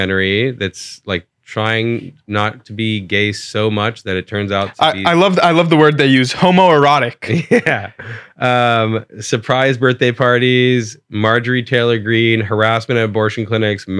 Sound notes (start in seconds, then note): 7.2 laughs